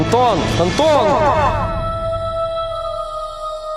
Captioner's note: echo